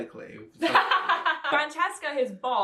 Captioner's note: laughs